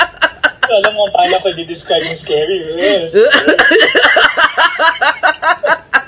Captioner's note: laughter